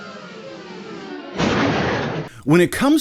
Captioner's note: thud!!!